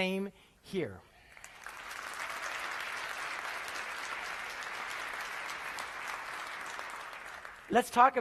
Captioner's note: applause